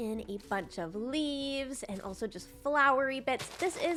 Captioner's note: none